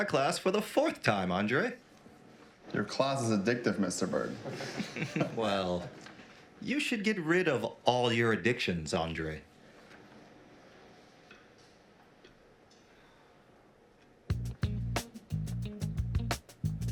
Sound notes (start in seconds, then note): 4.2 all laughing; 14.3 upbeat music